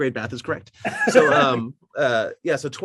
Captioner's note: laughing